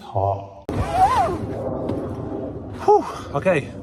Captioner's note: zipper whooshing